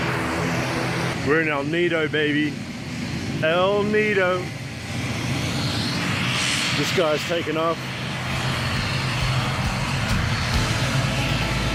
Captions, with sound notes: We're in El Nido, baby. El Nido. (plane engine) This guy's taking off.